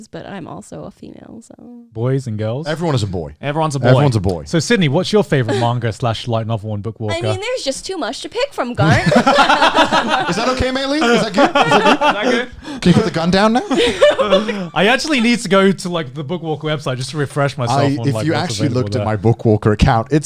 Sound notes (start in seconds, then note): 8.8 laughing